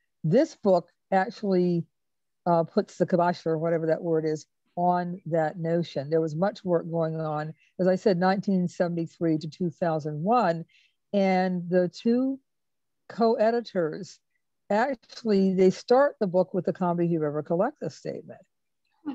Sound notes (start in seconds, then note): none